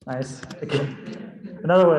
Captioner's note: laughter